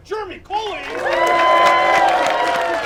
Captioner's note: applause